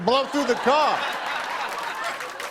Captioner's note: laughter and applause